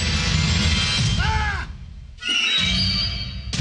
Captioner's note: ominous music; yells; dramatic music